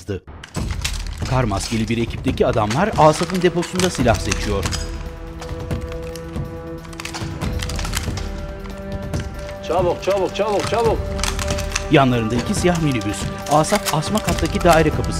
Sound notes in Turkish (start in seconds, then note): 0.6 Silah mekanizma sesleri; 13.6 Müzik - Aksiyon